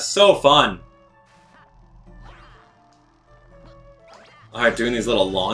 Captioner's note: gaming sounds; instrumental music